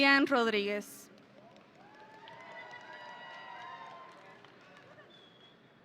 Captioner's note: audience cheering